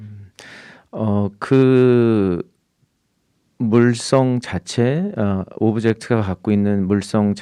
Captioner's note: speaking in Korean